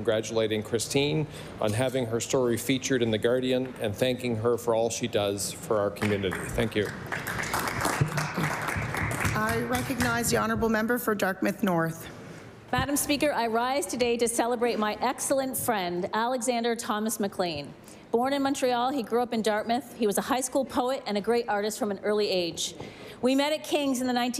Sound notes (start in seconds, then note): 10.3 applause